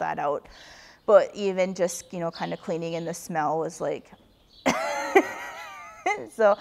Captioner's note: laughs